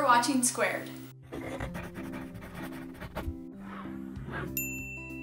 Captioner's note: pencil scribbling; bell chimes